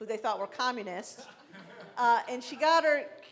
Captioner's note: laughing